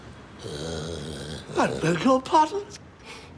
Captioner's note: Summers muttering